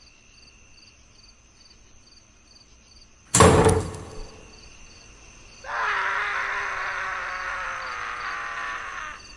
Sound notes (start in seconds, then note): 1.1 crickets chirping; 3.3 door clinks; 5.6 Watson screaming